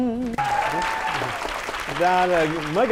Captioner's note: applause